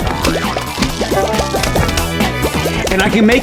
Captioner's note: Bucket drops lane 1 from Random Zombie